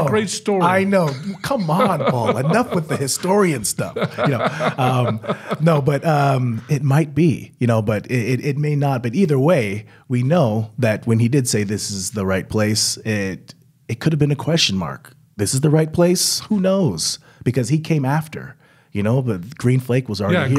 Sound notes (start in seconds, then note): 4.0 chuckling